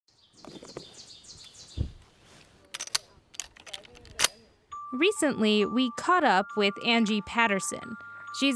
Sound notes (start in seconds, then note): 0.1 birdsong